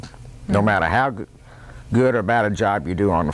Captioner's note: none